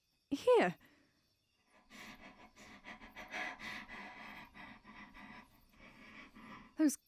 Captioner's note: etta breathes shakily